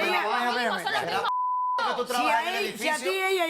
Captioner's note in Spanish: Bip